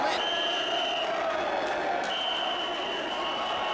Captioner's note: whistle blowing